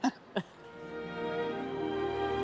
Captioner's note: both laugh